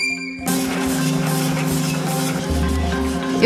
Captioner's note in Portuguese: Ruídos metálicos